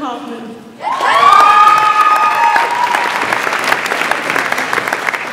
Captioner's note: audience applauds and cheers